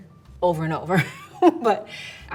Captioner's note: laughs